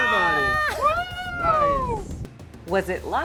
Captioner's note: crew cheering